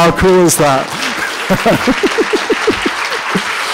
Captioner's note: laughter